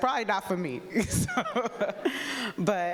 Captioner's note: laughing